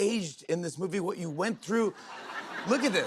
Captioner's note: laughter